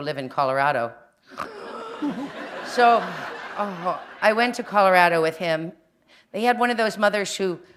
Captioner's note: laughter